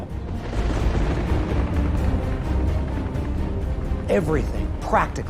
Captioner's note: thunder rumbling